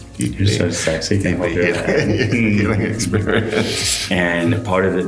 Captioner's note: chuckling